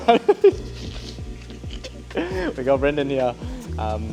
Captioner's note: laughing